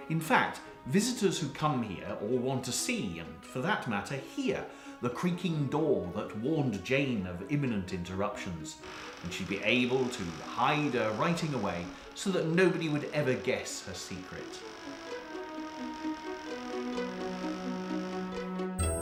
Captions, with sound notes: In fact, visitors who come here or want to see and, for that matter, hear the creaking door that warned Jane of imminent interruptions and she'd be able to hide her writing away so that nobody would ever guess her secret. (door creaking)